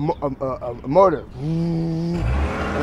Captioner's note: engine cranking; imitates engine